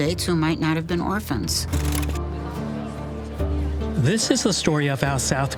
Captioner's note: people talking in background